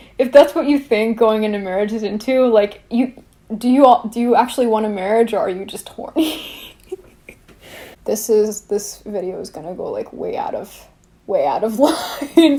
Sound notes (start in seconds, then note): 6.2 laughs; 11.9 laughs